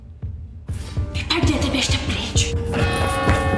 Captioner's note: woman speaking in Czech; church bell ringing